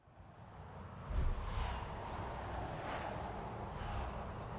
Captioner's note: graphics whooshing